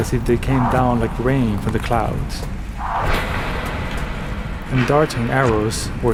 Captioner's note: soundbite of arrows firing